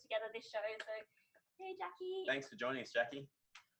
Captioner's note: claps